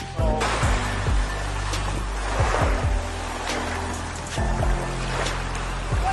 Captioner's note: background music; waves lapping on shore